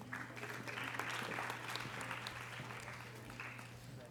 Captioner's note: audience applause